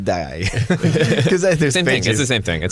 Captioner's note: laughter